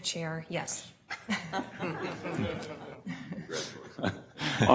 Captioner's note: laughter